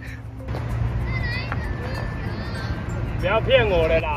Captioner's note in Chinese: 小朋友場邊音